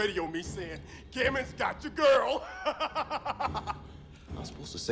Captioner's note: laughs